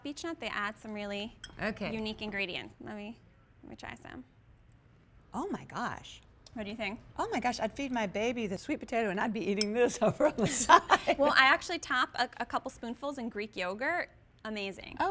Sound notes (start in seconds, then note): 10.0 laughter